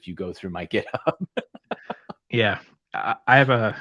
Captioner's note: laughter